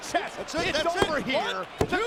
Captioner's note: hands thudding